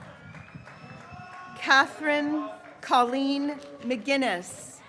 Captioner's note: graduates cheering